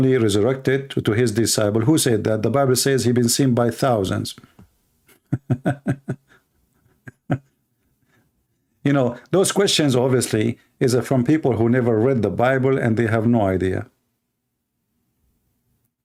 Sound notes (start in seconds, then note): 5.1 Ketawa